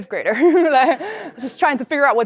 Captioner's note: laugh